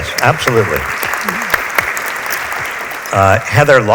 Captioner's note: audience applauds